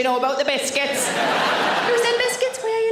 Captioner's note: audience laughs; laughs